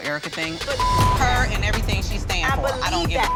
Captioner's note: beep; beep